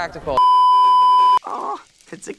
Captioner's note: beeeeeep